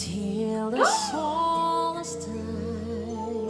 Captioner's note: surprised sound